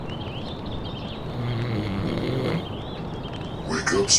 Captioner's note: snoring